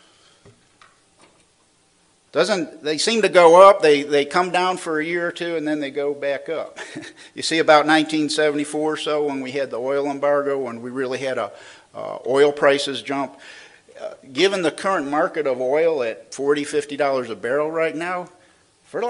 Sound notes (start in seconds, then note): 6.8 laughs